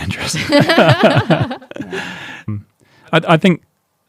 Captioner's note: laughing